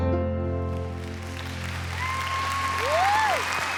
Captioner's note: applause